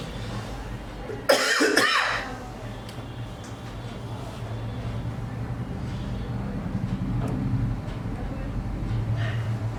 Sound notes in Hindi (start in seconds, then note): 1.2 खांसने की आवाज़